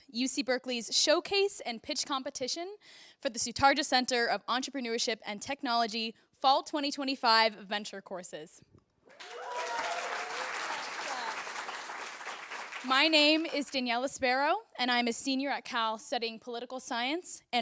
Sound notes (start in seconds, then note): 9.1 applause